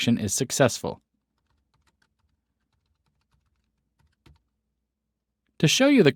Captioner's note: typing